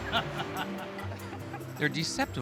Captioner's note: laughs